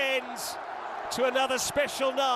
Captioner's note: cheers and applause; crowd noise